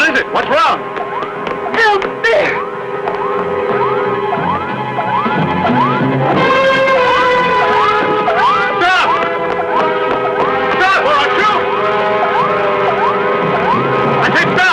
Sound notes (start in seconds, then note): 3.2 dramatic music; 3.2 electronic beeping; 12.1 electronic beeping